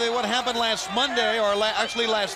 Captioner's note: crowd cheering